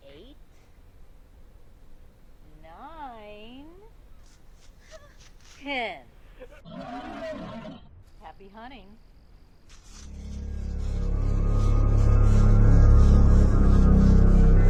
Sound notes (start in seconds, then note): 6.6 creature roaring; 11.7 dramatic music